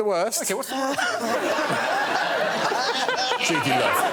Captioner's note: laughter